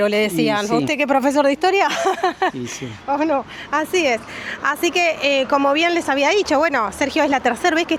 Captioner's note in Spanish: risas